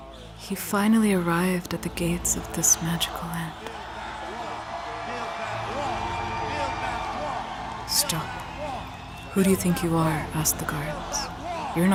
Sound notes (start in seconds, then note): 3.9 crowd shouting and cheering grows louder